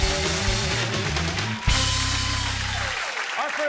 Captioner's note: cheers and applause